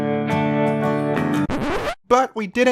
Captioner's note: record Scratch